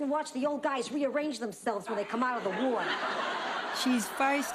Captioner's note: laughs